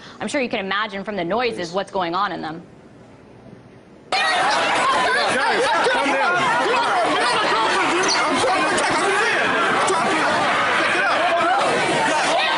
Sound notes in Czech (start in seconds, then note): 4.4 hluk davu